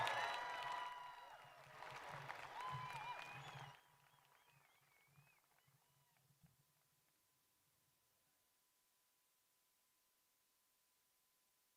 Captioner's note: cheers and applause